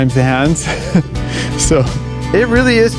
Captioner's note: laughs